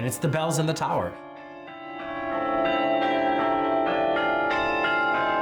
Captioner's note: bells chiming